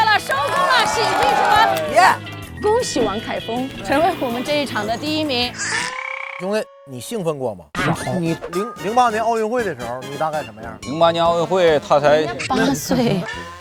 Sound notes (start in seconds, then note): 0.0 laughs; 12.2 laughs